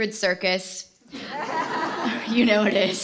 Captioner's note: laughter